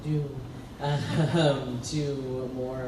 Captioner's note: laughs